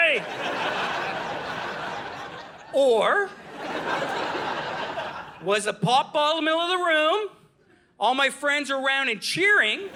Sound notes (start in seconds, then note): 0.1 audience laughing